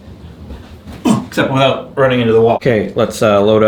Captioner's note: grunts